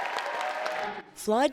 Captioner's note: cheering